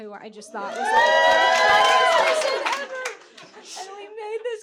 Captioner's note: audience clapping